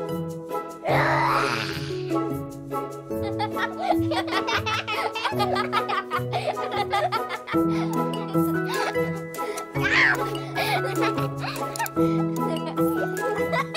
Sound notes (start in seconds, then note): 3.2 laugher